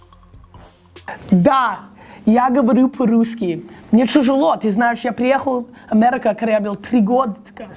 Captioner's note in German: Sprechen Russisch